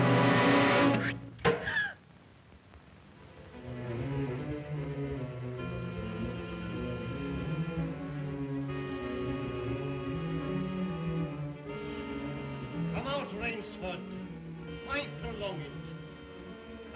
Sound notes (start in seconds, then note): 0.0 tense music; 1.2 Eve gasps; 1.2 arrow thunks; 3.6 ominous music